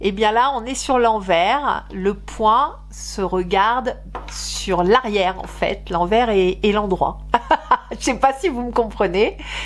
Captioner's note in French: rires